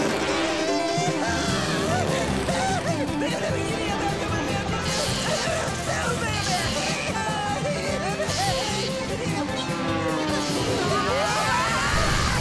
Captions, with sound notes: Yeehaw! [laughing, babbling] Yeehaw! [laughing] [screaming]